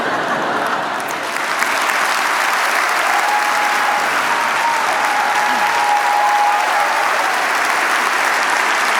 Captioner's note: laughter, applause, cheers